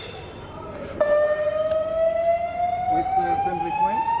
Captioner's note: alarm blares